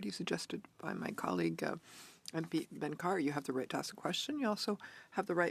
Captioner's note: speaking French